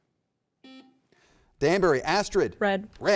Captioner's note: button beeping